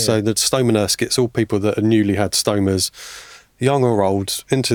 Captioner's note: none